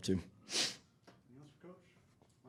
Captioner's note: nose sniffling